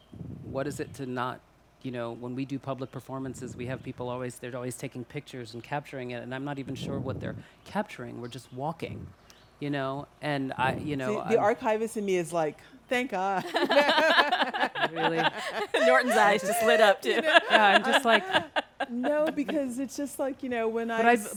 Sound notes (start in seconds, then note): 13.4 all laughing; 17.3 speakers laughing